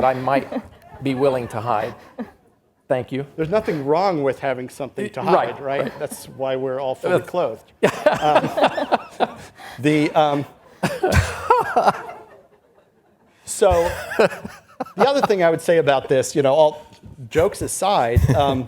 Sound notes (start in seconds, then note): 7.8 all laughs; 11.2 laughs